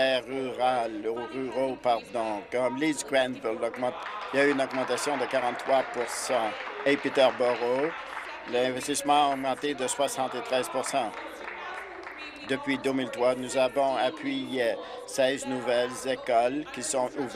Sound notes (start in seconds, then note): 8.4 applause